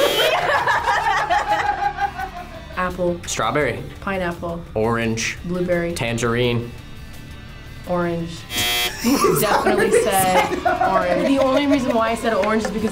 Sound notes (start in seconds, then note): 0.0 buzzer blares; 0.0 laughs; 8.4 buzzer blares; 8.8 laughing